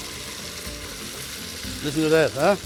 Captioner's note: sizzling